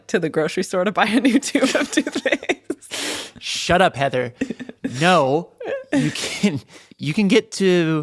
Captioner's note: laughs